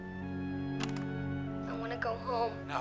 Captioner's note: player clicks